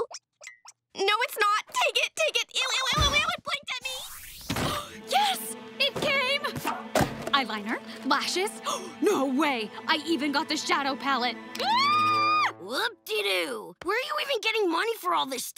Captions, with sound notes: No it's not! Take it! Take it! Ew! Ew! Ew! It blinked at me! Yes, it came! Eyeliner, lashes! No way. I even got the shadow p. [screaming] Whoopdidoo! Where are you even getting money for all this?